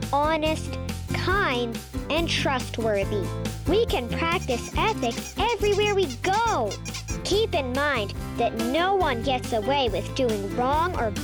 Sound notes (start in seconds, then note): 6.5 bunny squeaking